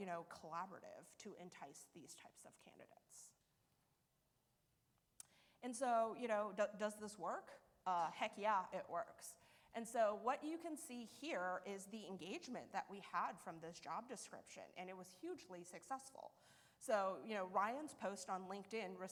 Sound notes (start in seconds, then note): none